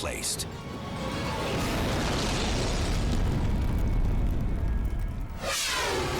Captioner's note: explosion booming; scene swooshing